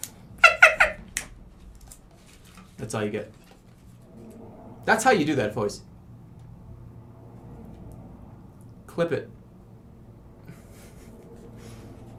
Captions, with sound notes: [evil elmo laugh] [snaps] That's all you get. That's how you do that voice. "Clip it."